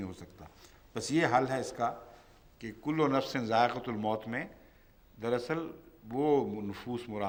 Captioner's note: Arabic